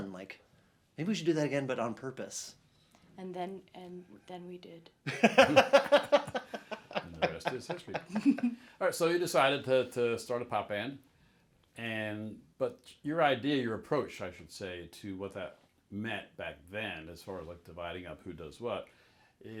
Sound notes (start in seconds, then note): 5.0 laughs